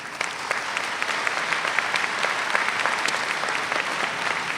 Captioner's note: audience applauds